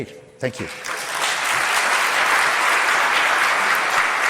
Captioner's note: crowd applauds